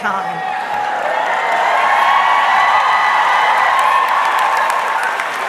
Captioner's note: audience clapping